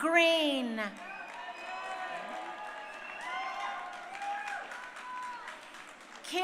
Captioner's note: crowd cheering